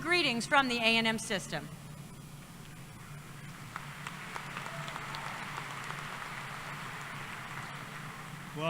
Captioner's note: applause